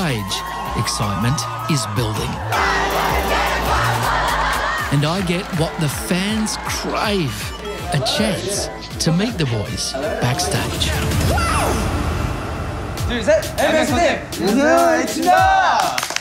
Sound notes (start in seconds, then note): 2.4 all chant; 12.8 all speak korean